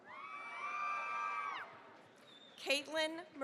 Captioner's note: cheering, applause